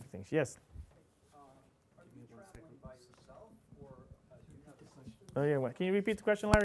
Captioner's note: audience member speaking off-mic